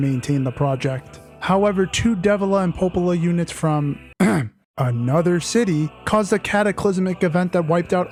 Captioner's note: ahem